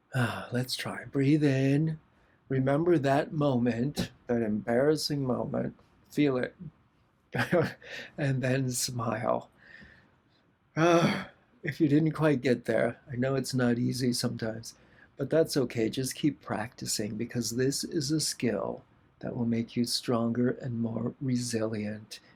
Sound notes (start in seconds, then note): 7.4 laughter